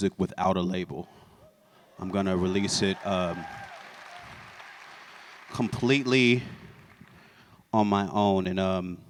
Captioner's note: applause